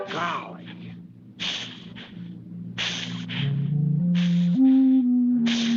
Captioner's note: tense music; air hissing